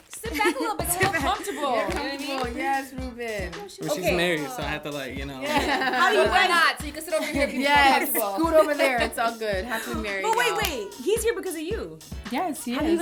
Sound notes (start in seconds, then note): 5.4 laughter